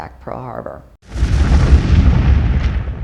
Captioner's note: explosion